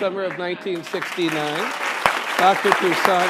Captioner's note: applause